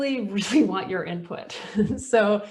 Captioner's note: chuckles